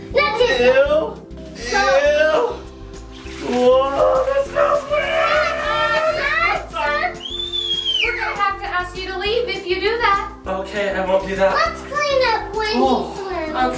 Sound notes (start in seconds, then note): 7.2 shrieks